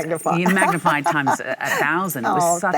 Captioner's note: Michelle laughs